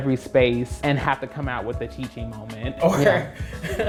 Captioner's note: laughs